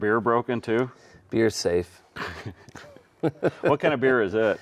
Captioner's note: chuckling